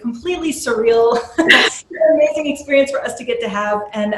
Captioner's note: laughing